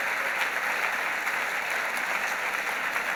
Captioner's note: cheering and clapping